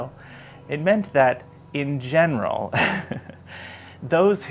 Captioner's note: laughs